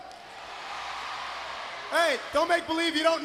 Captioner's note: crowd cheering